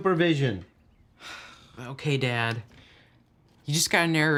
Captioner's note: sighing